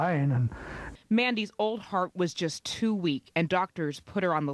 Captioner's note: voiceover